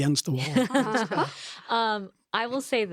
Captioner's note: laughs